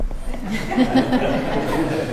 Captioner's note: laughter